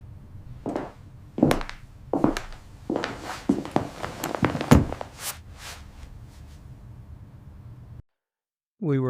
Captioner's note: walking